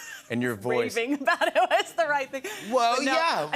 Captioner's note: laughs